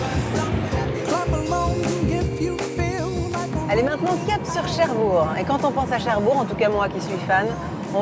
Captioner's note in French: chant